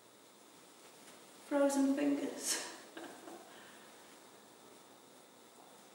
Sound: chuckles

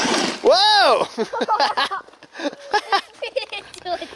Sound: laughs

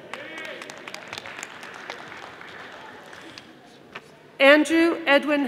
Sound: audience applauding

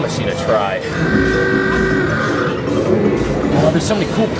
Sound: upbeat music; claw whirring

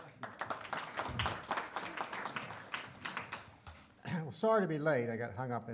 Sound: audience clapping

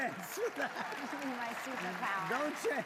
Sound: laughter

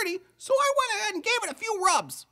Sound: none

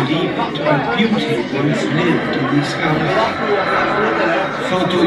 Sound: excited chattering

